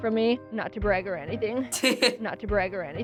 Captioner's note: laughs